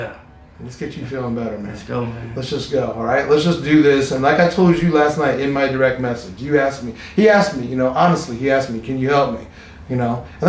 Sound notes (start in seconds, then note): 1.1 laughing; 7.6 laughs